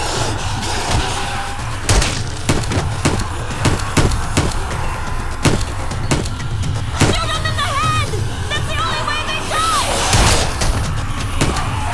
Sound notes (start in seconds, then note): 0.9 hissing and snarling; 4.9 gunshots